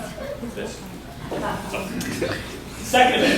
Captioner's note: laughter